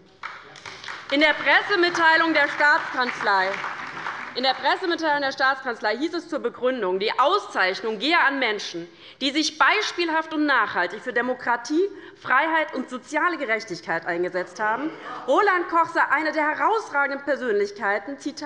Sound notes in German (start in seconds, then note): 0.0 Beifall bei der LINKEN und bei Abgeordneten der SPD; 14.4 Lachen bei Abgeordneten der SPD - Zuruf von der LINKEN: Ach!